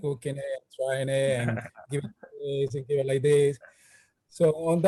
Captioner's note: laughs